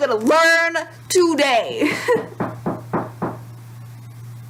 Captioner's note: door knocks